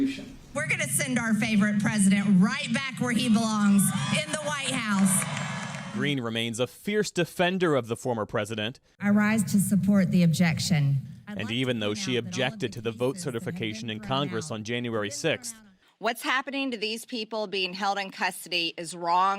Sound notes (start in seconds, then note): 3.7 cheering and applause